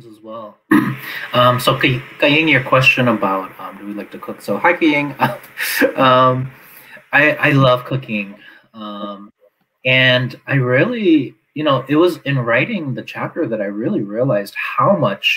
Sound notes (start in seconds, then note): 4.7 laughs